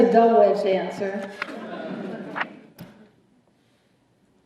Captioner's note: laughter